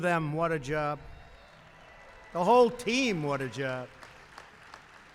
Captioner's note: applause